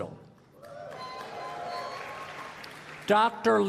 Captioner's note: applause